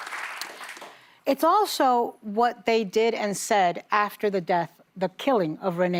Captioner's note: applause